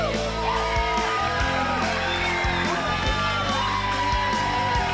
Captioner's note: audience cheers